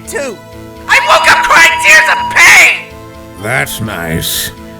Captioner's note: megaphone blaring